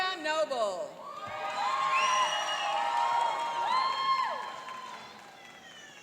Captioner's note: cheering and applauding